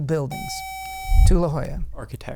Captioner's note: buzzer